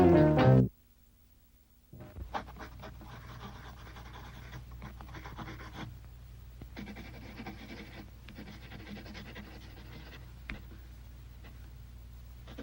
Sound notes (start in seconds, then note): 2.2 pencil scratching softly